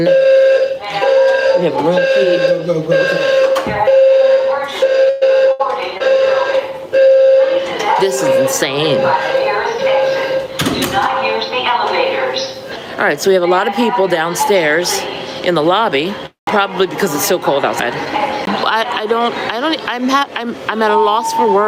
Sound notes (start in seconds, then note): 3.4 alarm beeping